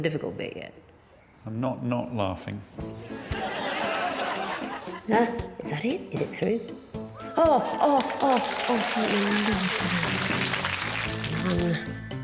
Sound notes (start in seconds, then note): 3.1 audience laughing; 10.9 audience applauding